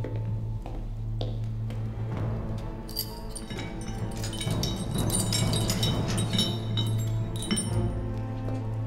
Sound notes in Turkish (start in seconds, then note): 4.9 Zincir sesi